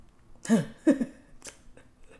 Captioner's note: laughs